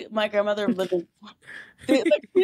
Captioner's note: laughing